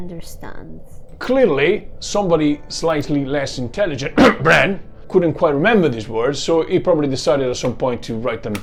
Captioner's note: cough